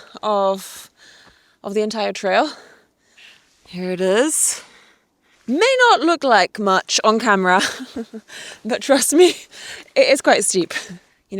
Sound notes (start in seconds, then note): 7.6 chuckles